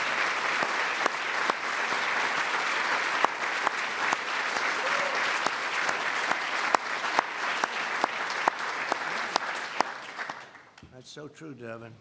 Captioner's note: applause